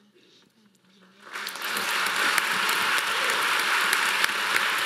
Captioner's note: audience applauding